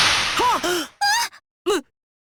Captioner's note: gasp